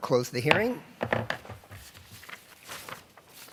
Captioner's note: gavel